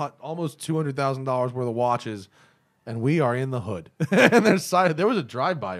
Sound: laughter

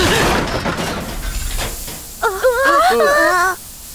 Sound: hissing; all gasp

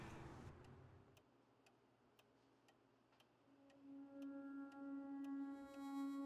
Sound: clock ticking; soft music

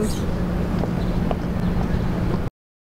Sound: footsteps, wind

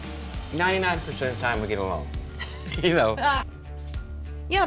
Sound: giggling

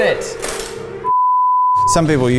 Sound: beep

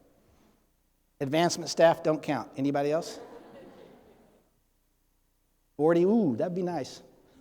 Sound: audience laughing

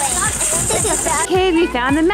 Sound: giggles

